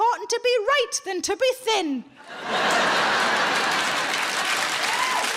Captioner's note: audience laughs